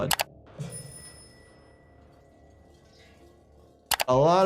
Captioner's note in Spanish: suena la campana